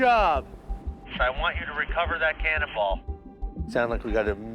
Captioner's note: speaking over radio